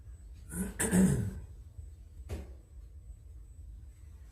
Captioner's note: clears throat